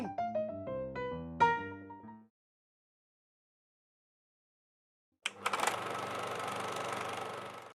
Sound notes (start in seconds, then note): 0.0 piano notes; 5.2 filmstrip running